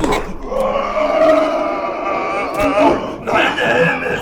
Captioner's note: Jacob grunting; ominous boom; Jacob screaming